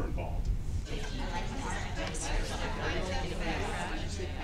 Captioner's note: chatter